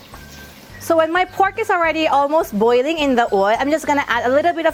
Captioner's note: sizzling